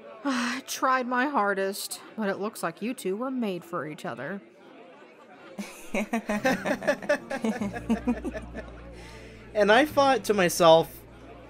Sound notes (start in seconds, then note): 5.6 Raymond and Fatima laughing